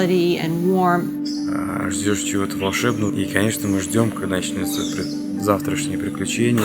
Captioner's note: speaks in foreign language – not transcribed